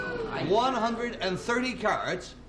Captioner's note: audience oohing